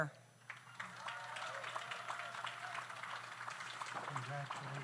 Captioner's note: audience applauds